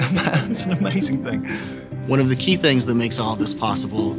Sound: laughing

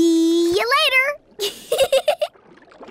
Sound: giggling

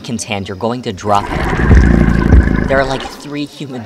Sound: Azazel growls

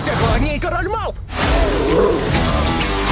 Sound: roars

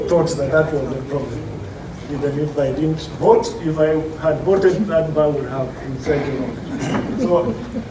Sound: laughter

